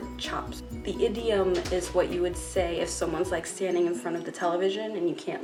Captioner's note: scratches at the door